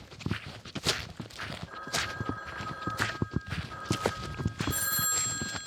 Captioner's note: phone starts ringing